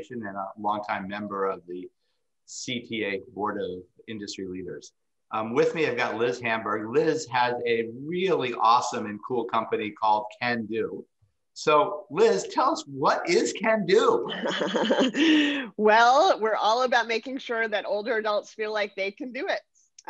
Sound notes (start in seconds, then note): 14.0 chuckles